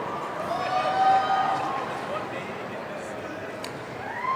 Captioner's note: audience cheering